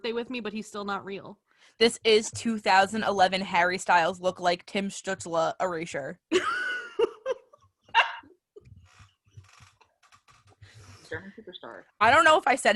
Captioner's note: laughter